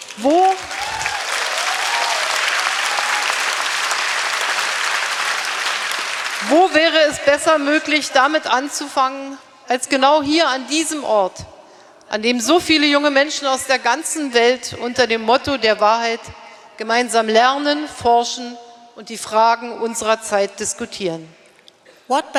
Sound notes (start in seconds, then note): 0.0 applause; 6.6 speaking in German